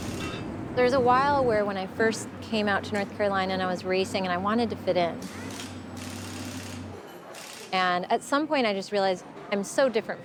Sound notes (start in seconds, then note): none